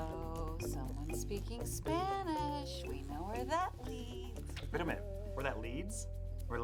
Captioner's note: singsong voice